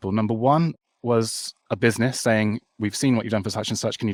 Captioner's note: none